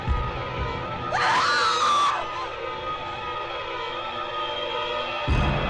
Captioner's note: Olivia screaming; suspenseful music